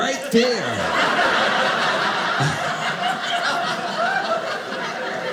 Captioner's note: audience laughing